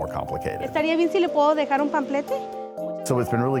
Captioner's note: speaking Spanish